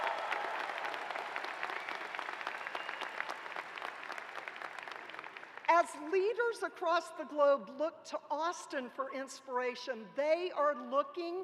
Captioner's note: cheers and applause